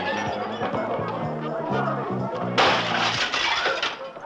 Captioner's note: glass shattering